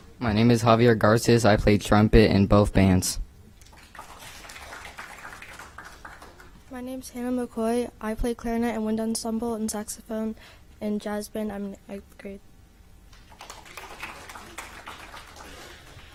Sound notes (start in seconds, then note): 5.3 applause